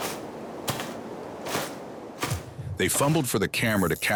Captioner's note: undergrowth crunching